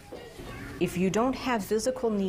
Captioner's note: people chattering